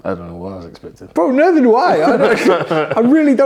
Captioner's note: laugh